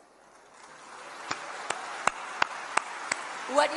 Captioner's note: applause